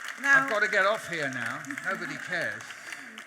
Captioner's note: audience laughs